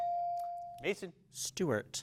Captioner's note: bell dings